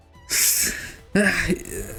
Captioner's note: inhale